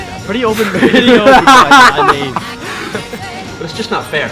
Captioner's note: laughter